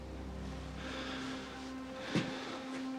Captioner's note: sighing